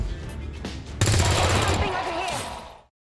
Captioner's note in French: Coups de feu